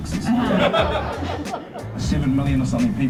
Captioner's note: audience laughs